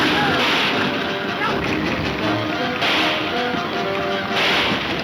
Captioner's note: gunshots banging